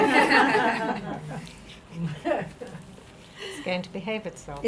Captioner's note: group laughing